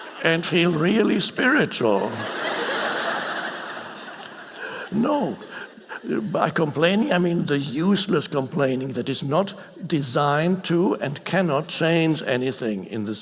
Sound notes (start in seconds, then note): 0.0 audience laughing; 2.3 audience laughing